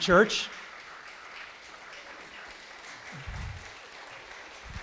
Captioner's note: audience applauding